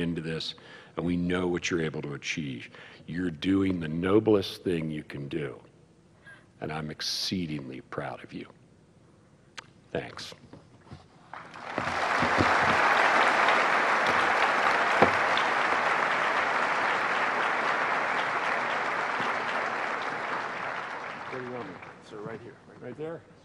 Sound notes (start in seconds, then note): 11.3 applause